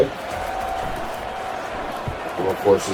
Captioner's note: crowd Noises